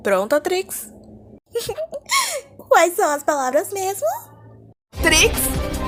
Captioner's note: laughter